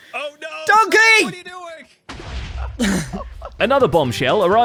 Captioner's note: explosion